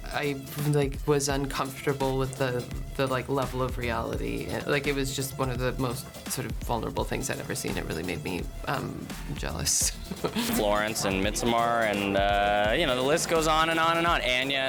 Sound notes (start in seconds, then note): 10.0 chuckles